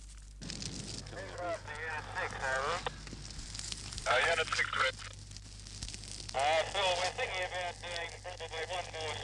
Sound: people talk on radio

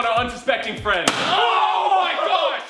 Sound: loud pop; surprised shouting

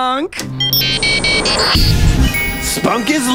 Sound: beeping

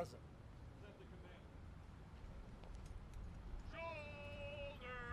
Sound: soldier shouting commands

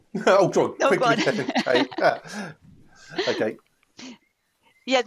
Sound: laughter

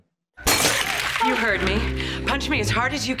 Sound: glass shattering

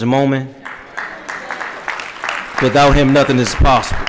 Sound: applause

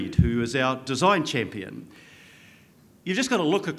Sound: none

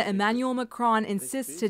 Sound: speaking French

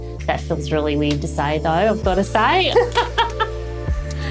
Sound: laughs

